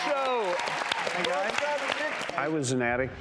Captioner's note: audience applauds